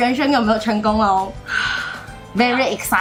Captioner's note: deep breath